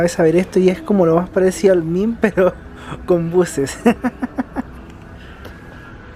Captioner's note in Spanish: risas